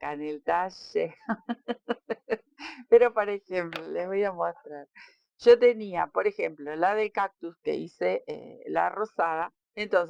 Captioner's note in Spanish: risas